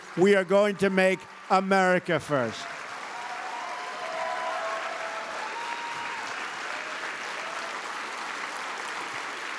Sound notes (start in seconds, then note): 2.6 applause